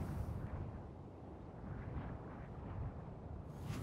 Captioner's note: wind hissing